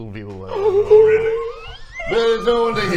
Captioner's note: gasppppp